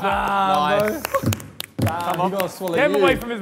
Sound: clapping

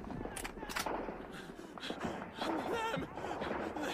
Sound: panting

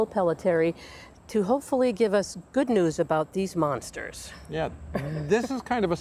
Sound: laughs

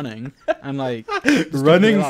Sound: laughing

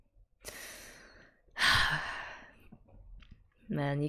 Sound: deep sigh

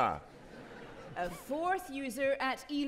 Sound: audience laughing

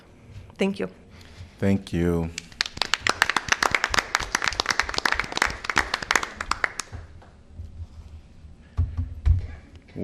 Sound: applause

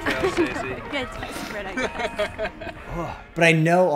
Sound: laughs

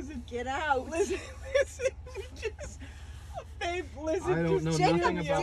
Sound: laughs

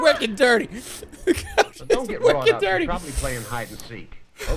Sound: laughing

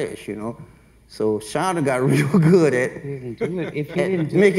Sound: laughs

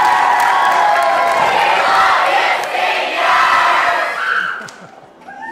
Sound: cheers and applause; students shout

